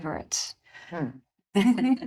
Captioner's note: chuckling